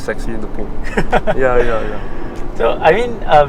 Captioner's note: laughs